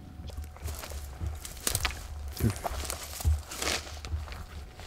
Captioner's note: leaves and twigs crunching